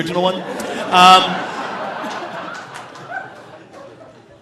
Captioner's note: audience laughing